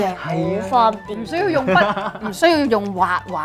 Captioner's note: laughing